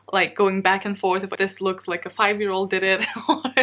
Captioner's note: laughs